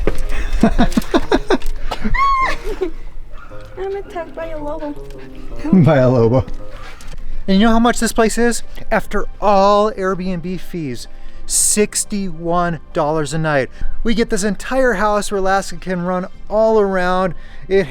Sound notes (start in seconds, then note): 0.1 laughs; 2.0 screams